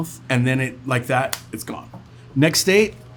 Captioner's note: fingers snapping